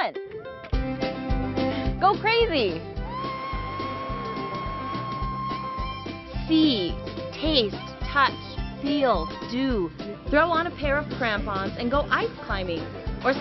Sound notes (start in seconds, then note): 3.0 screaming